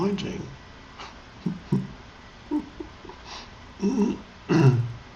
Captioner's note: Eckhart chuckles